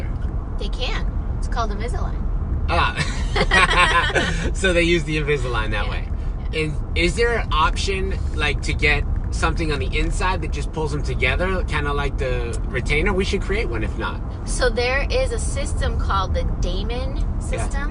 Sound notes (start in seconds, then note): 2.8 both laughing